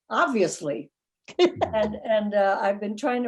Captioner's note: laughing